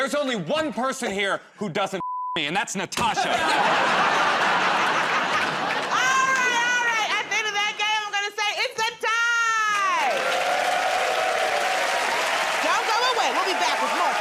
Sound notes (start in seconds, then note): 3.1 laughter; 9.5 cheers and applause